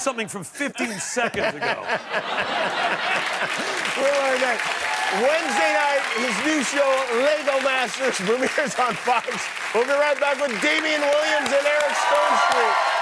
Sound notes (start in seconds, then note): 3.5 laughter; 8.4 cheers and applause